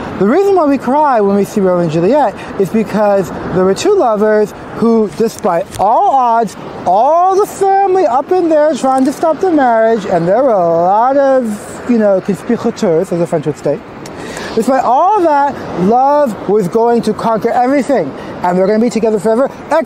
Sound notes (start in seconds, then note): 12.0 speaking french